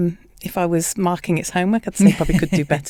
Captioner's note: laughs